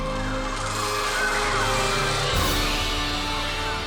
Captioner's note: birds screeching